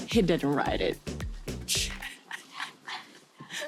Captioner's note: laughing